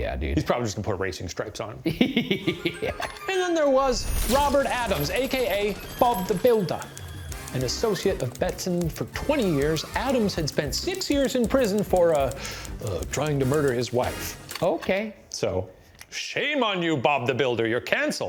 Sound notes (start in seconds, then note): 1.9 laughing